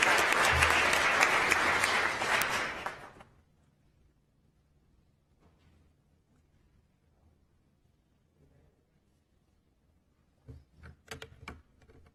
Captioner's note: applause